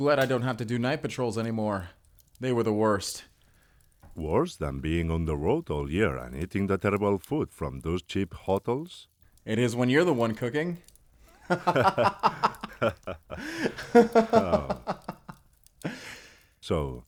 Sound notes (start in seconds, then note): 11.3 Alfonso and Hugo both laugh